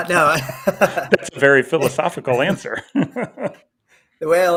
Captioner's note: chuckles